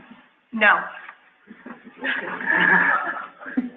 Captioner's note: laughing